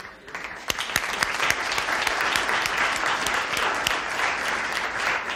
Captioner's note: audience applauds